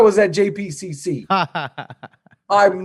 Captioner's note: laughs